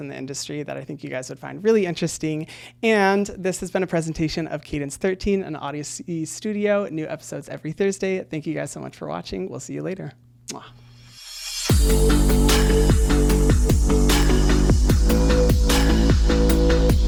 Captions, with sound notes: in the industry that I think you guys would find really interesting, and this has been a presentation of Cadence13 and the honesteaststudio, new episodes every Thursday. Thank you guys so much for watching, we'll see you later. (kiss sound) (electronic music)